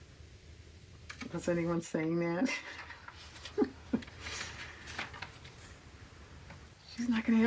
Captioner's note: laughs